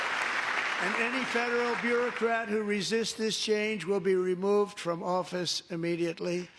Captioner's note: applause